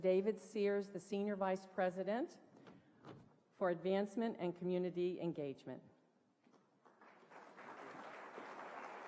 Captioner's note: applause